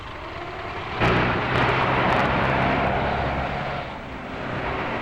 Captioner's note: engines roaring